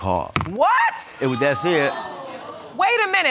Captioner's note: audience gasps